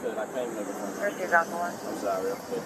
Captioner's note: radio chatter